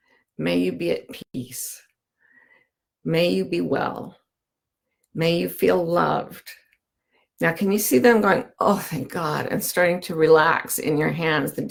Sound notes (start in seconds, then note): none